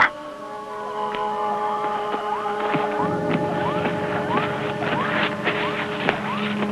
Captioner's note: dramatic music; electronic beeping